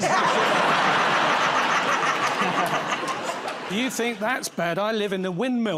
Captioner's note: laughter